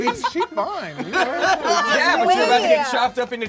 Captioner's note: laughing